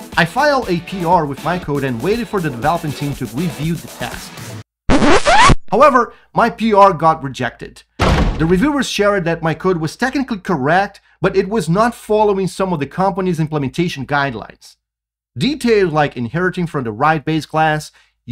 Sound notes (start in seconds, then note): 4.9 instrument squeaks; 8.0 instrument thuds